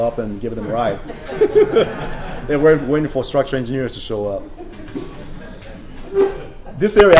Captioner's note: laughter